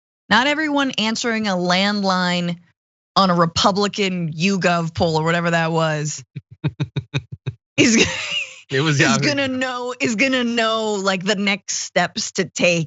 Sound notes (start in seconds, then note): 7.8 laugh